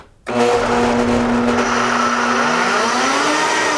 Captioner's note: whirring